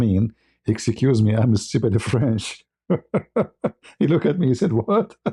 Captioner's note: ketawa